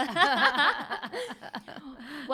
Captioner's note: laughing